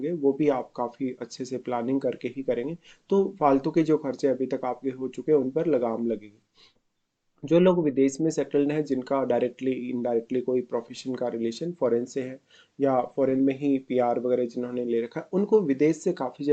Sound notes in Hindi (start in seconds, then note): 6.4 नाक से की जाने वाली आवाज़